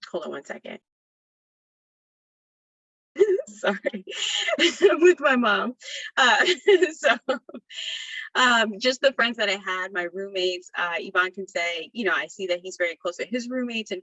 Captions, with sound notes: Hold on one second. Sorry. (laughs) I'm with my mom. (laughter continues) Just the friends that I had, my roommates, Ivan can say, I see that he's very close to his roommates